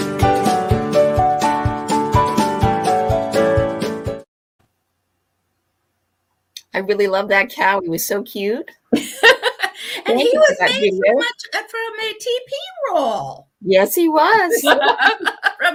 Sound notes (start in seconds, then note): 9.0 laughing; 14.5 laughing